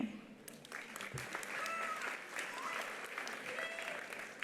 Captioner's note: attendees applauding